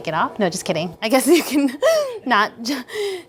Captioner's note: laughs